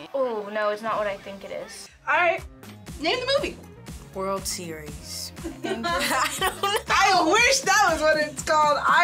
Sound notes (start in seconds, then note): 5.5 laughs